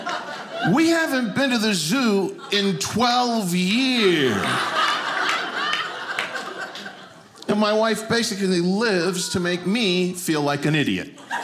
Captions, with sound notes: We haven't been to the zoo in 12 years. (audience laughing) And my wife basically lives to make me feel like an idiot.